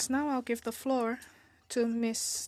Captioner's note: speaking in French